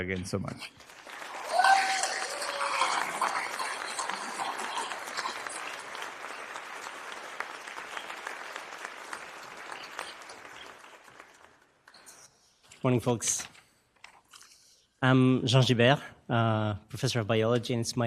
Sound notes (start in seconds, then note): 5.8 applause